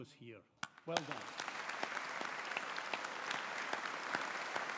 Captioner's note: audience applauding